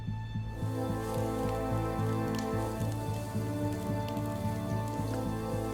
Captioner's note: dramatic suspenseful music; fire crackling